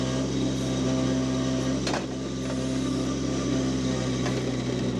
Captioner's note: engine rumbling